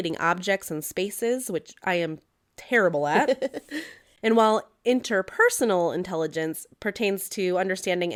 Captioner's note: laugh